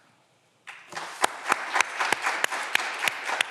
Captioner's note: all clapping